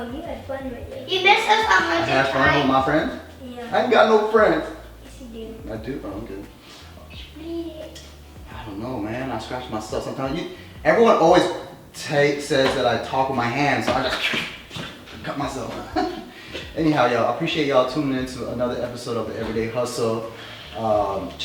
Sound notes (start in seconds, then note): 14.1 imitating slicing sound